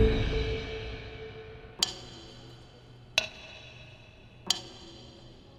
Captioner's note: clock ticking